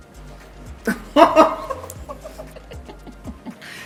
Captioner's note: laughs